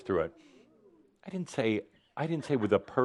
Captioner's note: audience say “Oooh!”